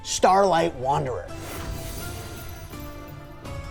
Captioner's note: whoosh